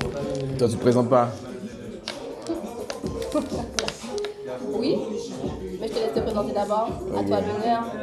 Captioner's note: laughs